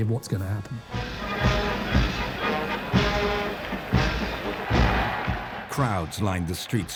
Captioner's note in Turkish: yürüyüş grubu çalıyor; kalabalık tezahürat